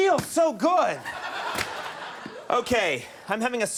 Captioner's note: audience laughs